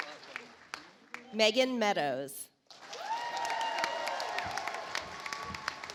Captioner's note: audience applauds